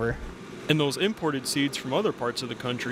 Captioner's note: voiceover